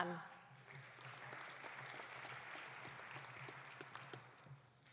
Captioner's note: audience applauding